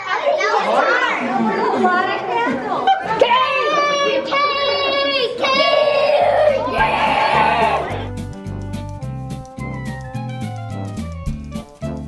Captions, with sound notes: - Cake! - Yay, cake, cake, cake! (yelling) (cheery music)